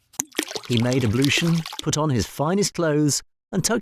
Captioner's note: water pouring